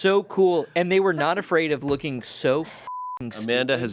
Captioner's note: beep